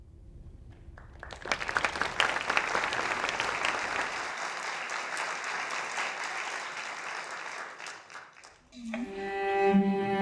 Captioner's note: applause; string music